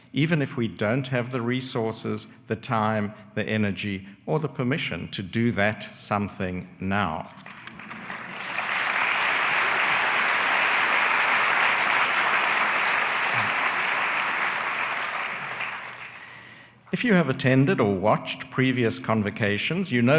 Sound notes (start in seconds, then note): 7.3 applause